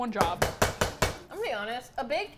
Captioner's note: bang bang bang